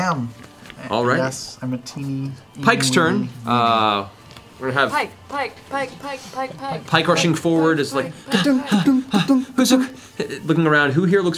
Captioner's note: panting